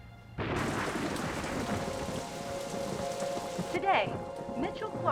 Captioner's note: thunder roaring; rain splattering; reporter On Television